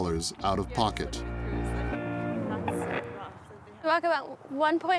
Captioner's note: chattering